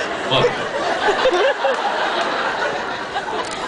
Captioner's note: laughs